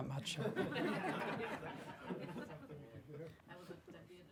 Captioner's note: audience laughing